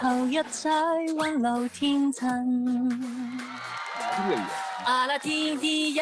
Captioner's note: Cantonese